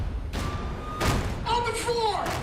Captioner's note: sirens